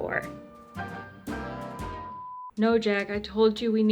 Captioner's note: off-channel tone